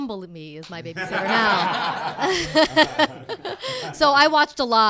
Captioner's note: cast laughing